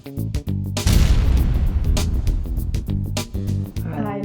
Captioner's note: upbeat music; graphic thudding